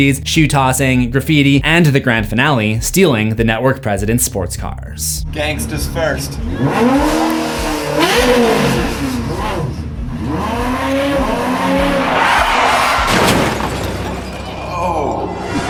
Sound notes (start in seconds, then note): 9.2 car revving; 12.0 crash; 15.4 impact